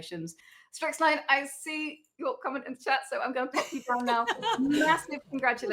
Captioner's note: laughing